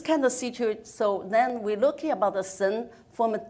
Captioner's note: speaks in foreign language